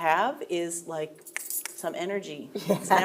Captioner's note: fingers clicking